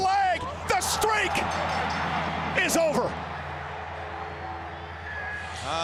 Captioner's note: bell dings